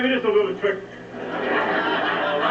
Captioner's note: laughter